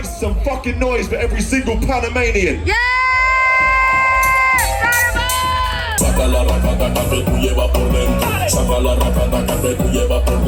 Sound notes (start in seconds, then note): 2.6 cheering and screaming